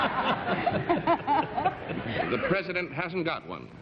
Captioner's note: laughter